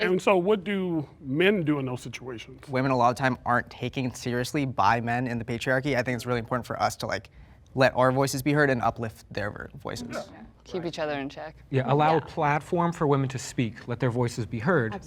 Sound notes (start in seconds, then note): none